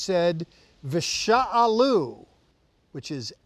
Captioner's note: speaking in Hebrew